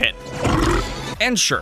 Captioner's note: belch